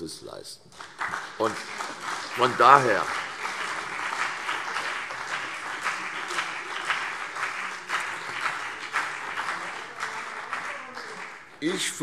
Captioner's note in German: Beifall CDU und BÜNDNIS 90/DIE GRÜNEN